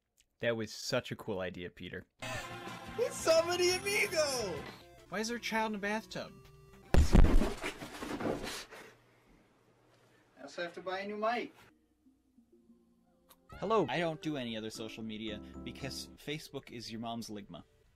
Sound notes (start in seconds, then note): 13.3 kiss